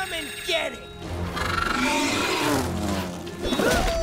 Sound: roaring; grunting

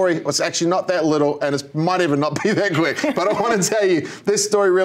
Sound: laughter

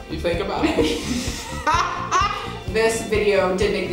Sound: both laughing

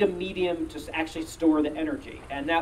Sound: none

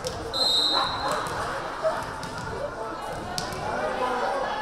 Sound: whistle blaring

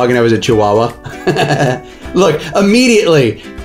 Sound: laughs

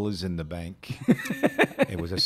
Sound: chuckling

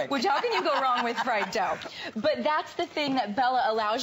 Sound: laughter

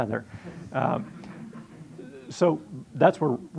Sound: audience laughing

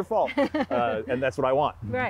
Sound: laughing

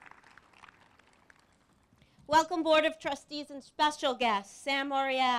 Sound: applause

